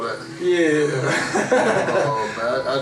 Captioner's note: chuckles